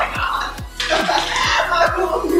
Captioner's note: laughing